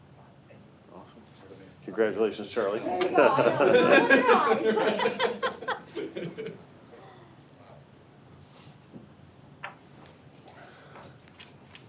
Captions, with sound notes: - Congratulations Charlie. (board members laugh)